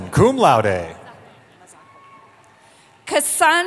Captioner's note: cheering